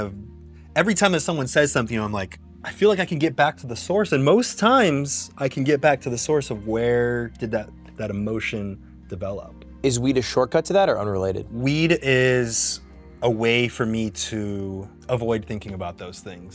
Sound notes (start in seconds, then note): none